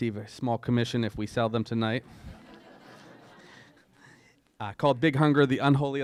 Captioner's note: laughter